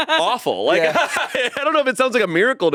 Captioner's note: laughs